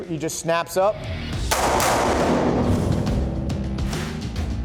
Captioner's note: gun fires